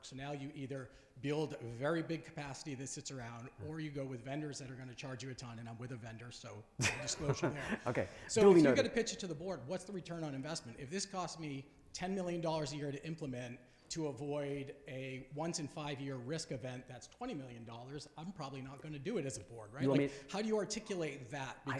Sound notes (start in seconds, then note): 6.8 laughing